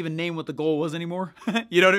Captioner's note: laughs